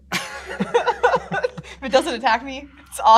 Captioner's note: both laugh